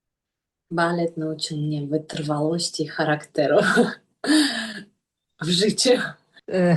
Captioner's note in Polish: śmiech